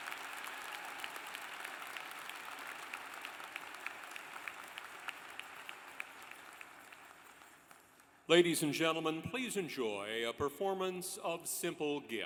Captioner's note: applause